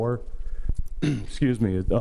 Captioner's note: clears throat